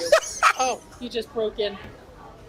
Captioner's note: laughs